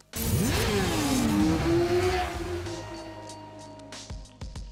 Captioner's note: bike engines roars